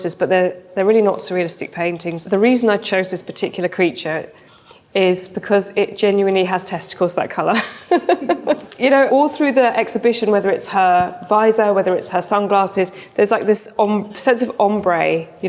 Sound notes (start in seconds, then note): 7.6 laughs